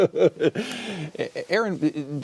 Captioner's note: laughter